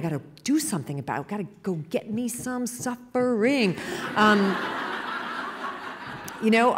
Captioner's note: laughter